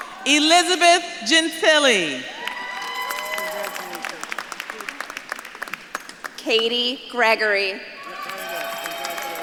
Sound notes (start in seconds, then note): 0.0 audience claps and cheers; 3.2 audience claps and cheers; 5.5 faintly speaks; 8.0 audience claps and cheers